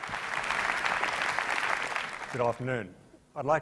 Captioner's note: applause